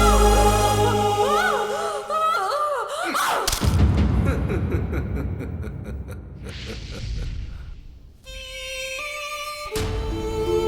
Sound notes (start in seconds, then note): 3.2 bones Break; 4.1 Bishop laughs